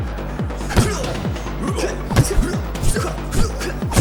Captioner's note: men grunting